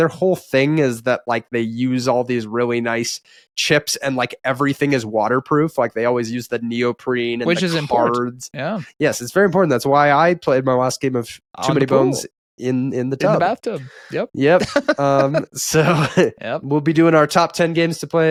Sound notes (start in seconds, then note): 14.4 laughing